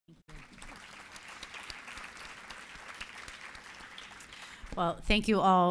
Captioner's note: applause